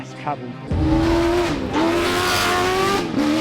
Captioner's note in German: Motor heult auf